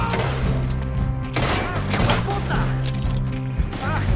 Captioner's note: in Spanish